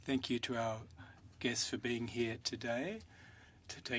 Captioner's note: speaking French